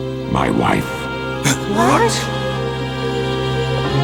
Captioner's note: gasp